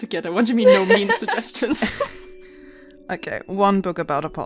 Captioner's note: laughters